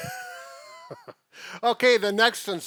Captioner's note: chuckling